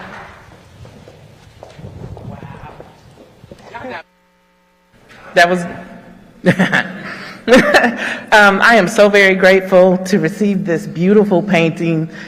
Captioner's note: laughter